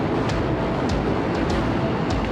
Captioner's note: plane noise